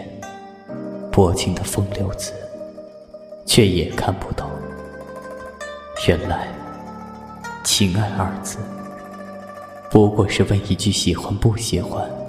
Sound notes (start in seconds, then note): none